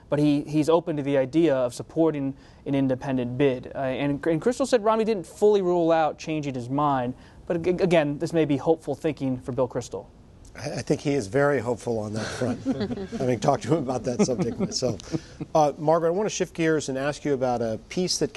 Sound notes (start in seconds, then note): 12.2 light laughter